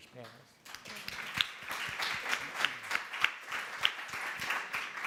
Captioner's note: applauding